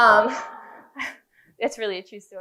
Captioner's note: laughing